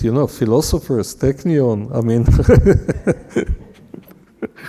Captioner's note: laughing